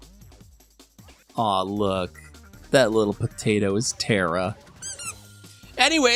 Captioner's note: squeaky toy